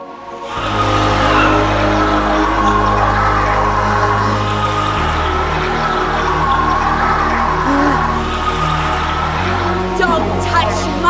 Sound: demonic roar

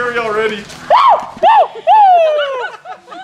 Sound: laughs; yells; laughing

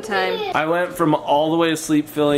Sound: child laughing

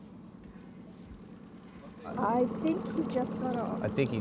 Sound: boat engine idling

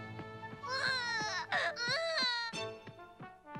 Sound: crying

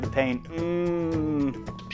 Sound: moaning

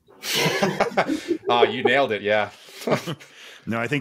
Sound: laughs

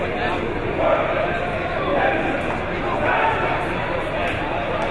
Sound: team chanting

